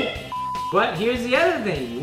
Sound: beep

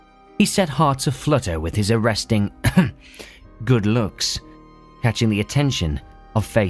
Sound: ahem

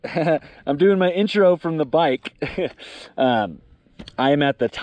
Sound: laughs; laughs

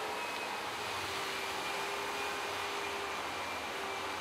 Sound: continuous whirring in the background

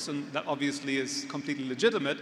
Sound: none

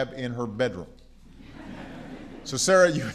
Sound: laughter

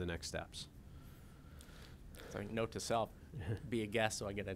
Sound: executive Director speaking

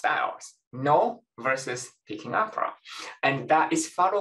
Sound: speaking foreign language

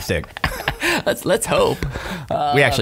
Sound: laughing

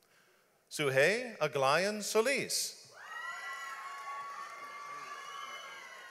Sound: audience applauds

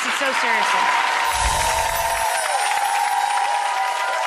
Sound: audience yelling

